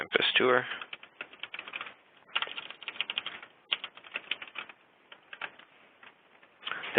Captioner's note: typing